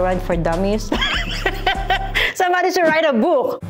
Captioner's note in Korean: 웃음